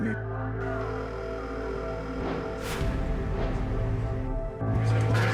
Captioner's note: line ringing